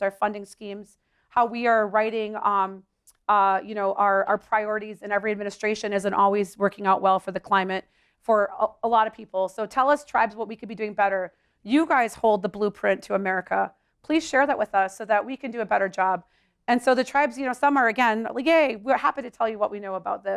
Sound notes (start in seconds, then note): none